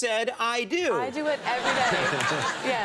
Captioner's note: laughter